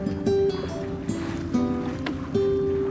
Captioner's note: happy guitar music; barge engine